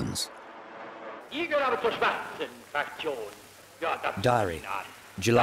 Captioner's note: speaking foreign language